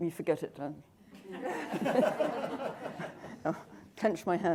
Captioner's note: laughter